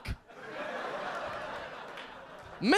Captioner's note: audience laughing